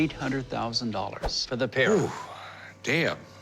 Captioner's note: blows air